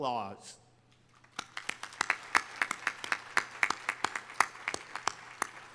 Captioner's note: audience applauding